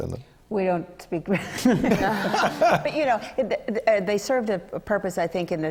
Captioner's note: laughter